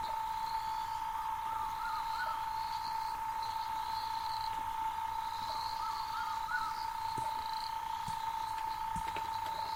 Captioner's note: night sounds